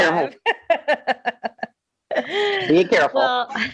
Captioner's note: laughing